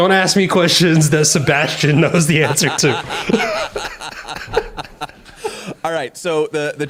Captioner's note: laughter